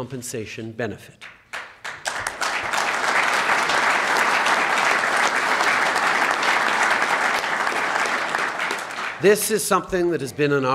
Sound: applause

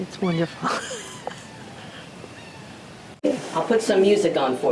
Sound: laughs

